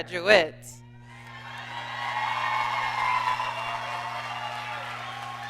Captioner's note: audience cheering